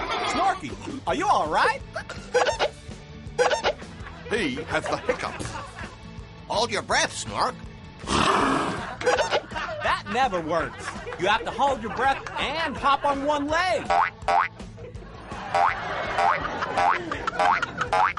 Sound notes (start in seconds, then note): 2.3 two hiccups; 9.0 hold breath, then hiccups